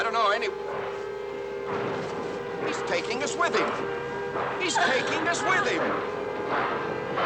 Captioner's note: train Chugging